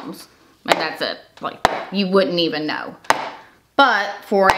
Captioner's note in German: Becher klopft auf den Tisch